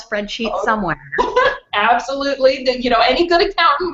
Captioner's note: laughs